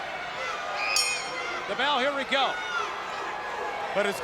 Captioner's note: bell ringing